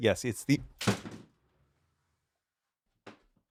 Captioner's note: door opens